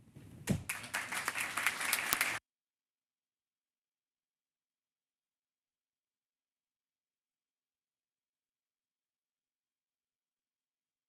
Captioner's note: applause